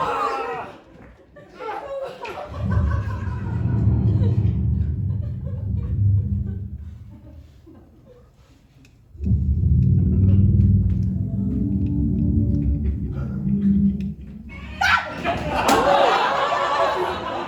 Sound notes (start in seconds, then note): 0.0 overlapping shouts; 2.4 low rumbling sound; 9.1 ominous growl; 14.7 dinosaur roar